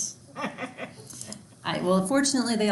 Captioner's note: laughs